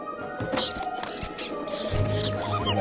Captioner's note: squeaking